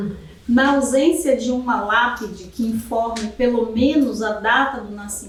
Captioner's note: speaking portuguese